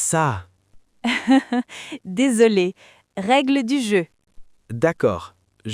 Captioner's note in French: rire